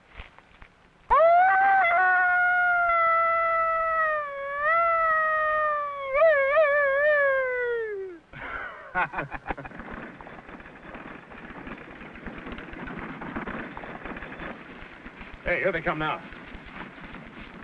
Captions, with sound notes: (man howls like a coyote) (men laugh) (horse hooves thunder) - Hey, here they come now.